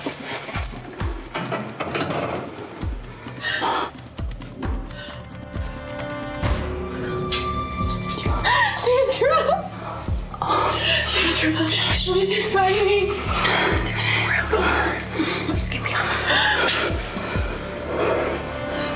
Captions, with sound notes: - Mom, mom? Sandra, Sandra! [crying] - Oh, shit, shh! - Sandra, don't let them find me. - There's no one here, let's get you home.